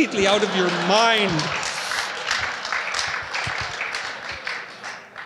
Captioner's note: laughter